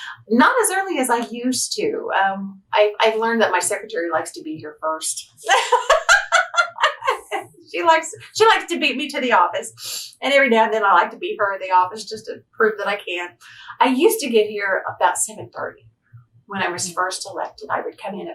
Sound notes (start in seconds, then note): 5.4 laughs